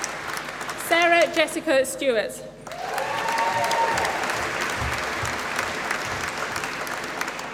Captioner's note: applause